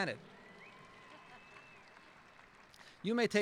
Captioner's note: applauding